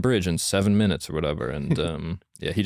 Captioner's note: laughs